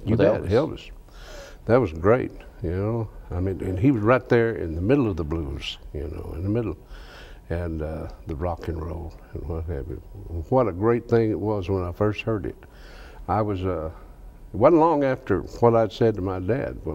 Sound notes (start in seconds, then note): none